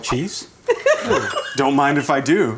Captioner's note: laughing